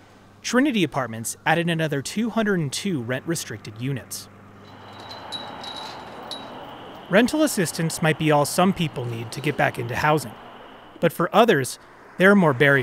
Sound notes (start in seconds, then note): 4.6 bells chiming; 12.6 car whooshing